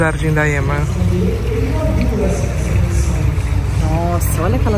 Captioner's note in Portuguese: falas em microfone